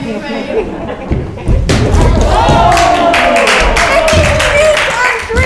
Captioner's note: thudding; crowd clapping